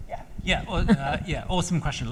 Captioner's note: laughs